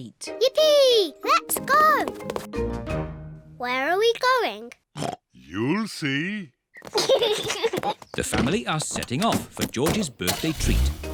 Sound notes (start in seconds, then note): 4.9 oinks; 6.8 kids giggle